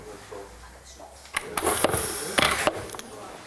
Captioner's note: mechanical sounds